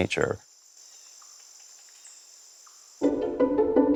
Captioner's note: insects grow louder